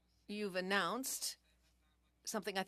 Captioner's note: speaking French